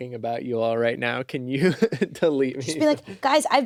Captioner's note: laughs